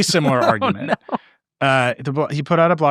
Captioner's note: laughing